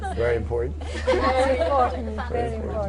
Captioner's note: laughter